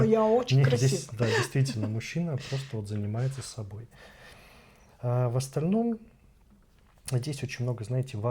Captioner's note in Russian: смех